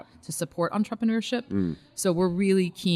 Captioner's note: hums in agreement